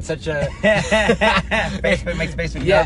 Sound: laughs

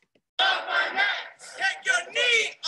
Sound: crowd

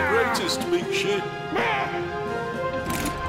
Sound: Dr. Crumpet yells

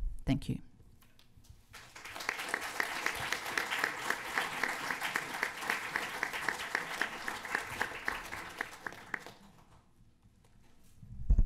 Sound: applause

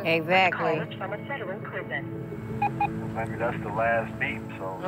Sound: beeps

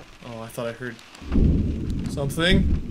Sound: thunder

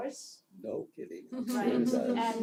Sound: laugh

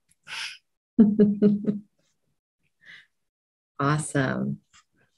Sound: chuckling

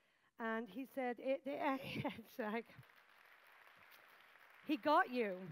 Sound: applause

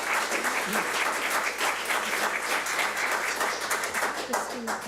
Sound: public applauding

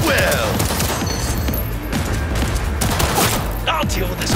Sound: gun firing

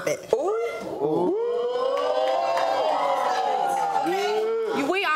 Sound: audiences ooh and clapping

